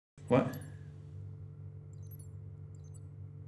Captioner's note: watch beeping